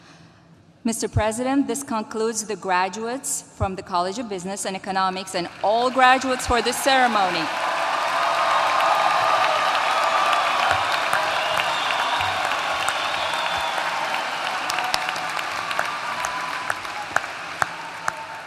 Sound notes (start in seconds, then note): 7.4 applause